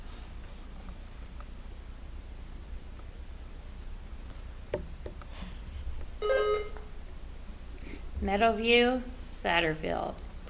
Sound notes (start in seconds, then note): 6.2 buzzer ringing